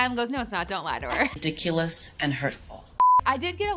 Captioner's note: electronic beeping